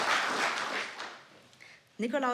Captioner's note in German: Applaus